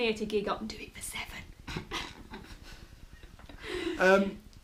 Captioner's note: laughter